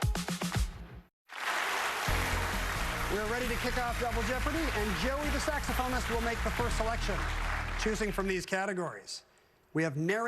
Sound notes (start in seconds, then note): 1.1 applause